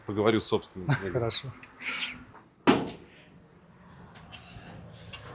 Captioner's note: chuckles